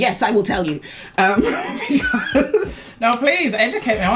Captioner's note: laughs